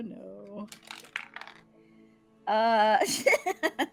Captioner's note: dice rattles; laughing